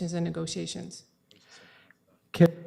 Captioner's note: audio drop